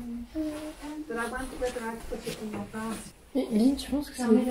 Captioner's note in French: dames continuant à parler